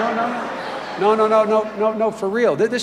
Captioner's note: laughter